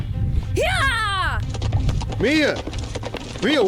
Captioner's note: horse fast gallup